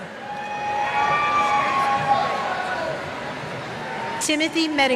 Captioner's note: cheers